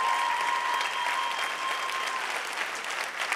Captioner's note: clapping; cheering